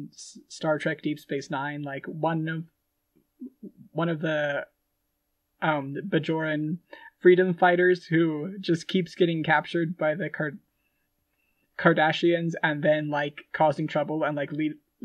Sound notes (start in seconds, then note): none